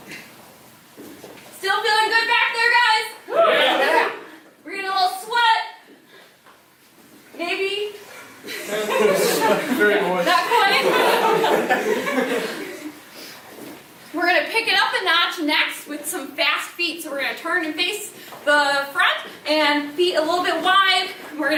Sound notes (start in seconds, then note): 8.4 laughing